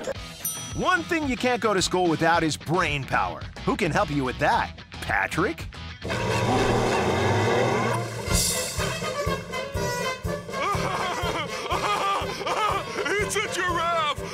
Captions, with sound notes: One thing you can't go to school without is brain power. Who can help you with that? Patrick? [circus music playing] [laughing] It's a giraffe.